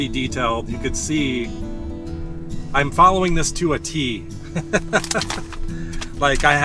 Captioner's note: laughs